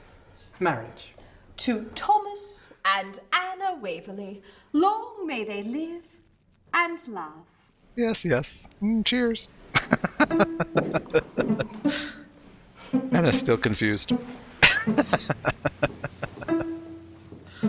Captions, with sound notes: Yes, yes. Cheers! [Laughing] Anna's still confused. [Laughing]